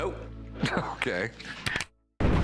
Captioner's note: chuckles; clicks